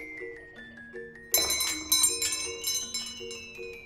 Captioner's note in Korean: 문에 달린 종 울리는 소리